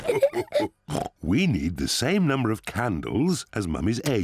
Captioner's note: all laugh; oinks